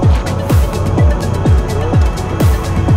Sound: none

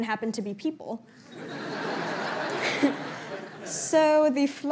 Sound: laughter

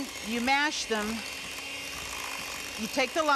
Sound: mixer mixing

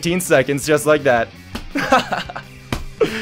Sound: laughs

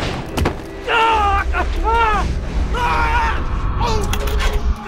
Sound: electric zapping; Leonard groaning

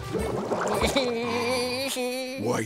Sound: SpongeBob giggling

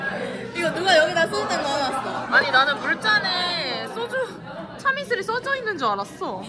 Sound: laughing

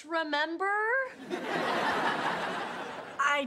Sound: audience laughing

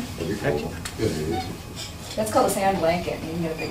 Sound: voiceover

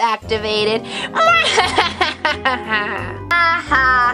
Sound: evil laughter

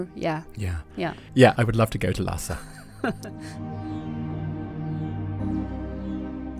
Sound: voiceover

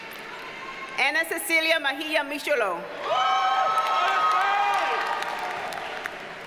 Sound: audience cheers and applauds

